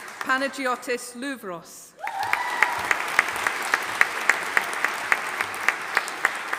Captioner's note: audience applauding